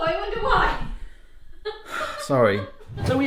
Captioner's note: nervous laughing